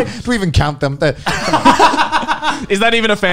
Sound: laughing

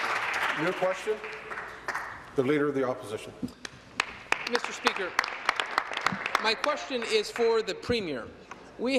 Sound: applause

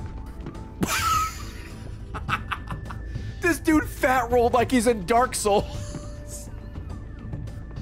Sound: laughs

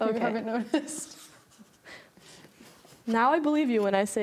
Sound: chuckles

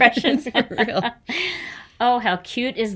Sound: everybody laughs

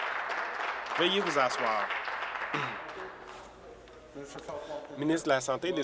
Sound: applause

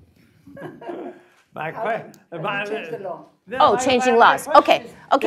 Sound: laugh

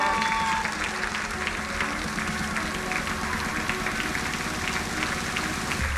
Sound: crowd applauding; energetic electronic music

